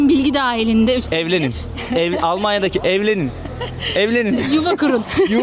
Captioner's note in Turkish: kahkaha